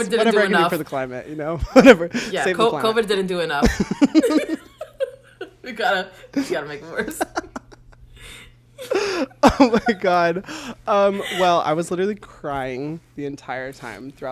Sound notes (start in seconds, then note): 3.6 both laugh; 8.8 both laugh